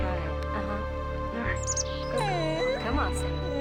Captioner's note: dog whimpers